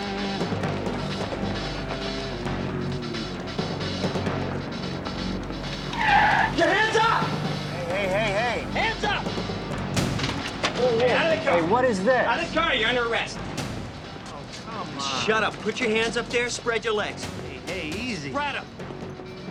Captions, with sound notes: (car screeches) - Put your hands up. - Hey, hey, hey, hey. - Hands up. - Hey, hey. - Get out of the car. - Hey, what is this? - Out of the car, you're under arrest. - Oh, come on. - Shut up. Put your hands up there, spread your legs. - Hey, easy. - Spread 'em.